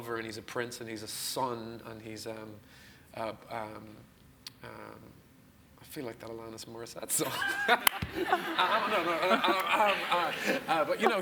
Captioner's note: laughs